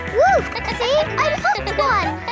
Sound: kids laughing

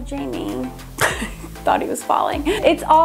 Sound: laughs

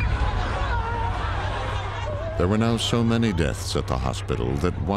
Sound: crowd shouting

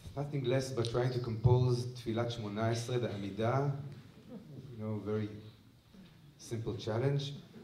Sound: non-english

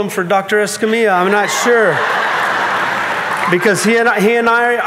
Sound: audience laughing

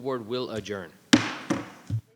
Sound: gavel tapping

